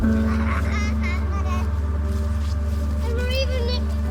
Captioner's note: children chattering continues